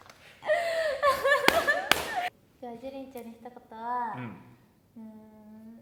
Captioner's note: claps